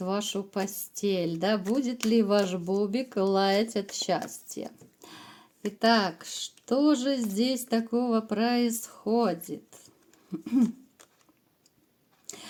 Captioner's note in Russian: откашливается